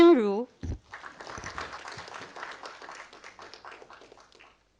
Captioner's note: audience applauding